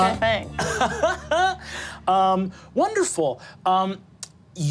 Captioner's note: laughs